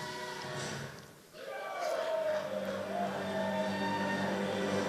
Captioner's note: racers cheering; dramatic vocal and orchestral music